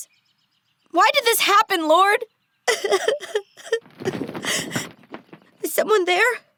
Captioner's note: crying